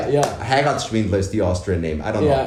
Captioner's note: speaks in foreign language